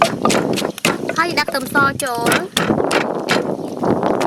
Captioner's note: pounding